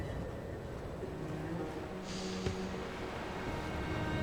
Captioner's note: none